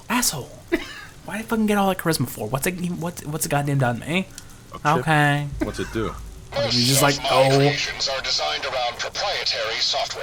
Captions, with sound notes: Asshole. Why'd I fucking get all that charisma for? What's it, what's it goddamn done to me? Okay. (laughing) He's just like, no.